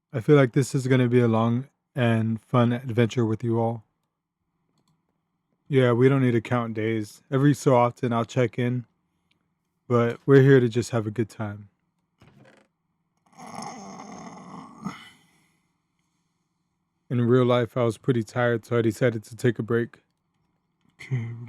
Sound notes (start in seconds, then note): 13.2 stretching making noises